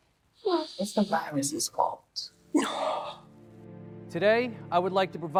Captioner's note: Alex sighs